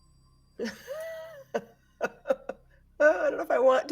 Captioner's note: laughing